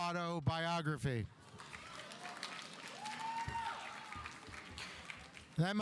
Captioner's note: audience applauding